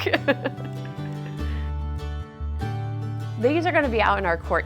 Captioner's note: laughing